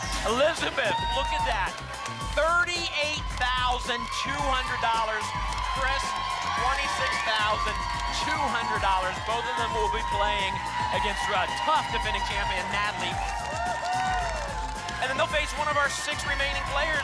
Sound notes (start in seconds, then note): 13.5 applause and cheering cont